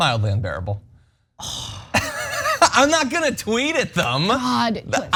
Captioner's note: laugh